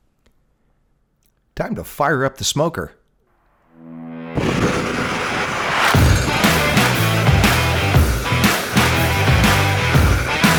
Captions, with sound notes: Time to fire up the smoker. (torch blowing) (upbeat rock music)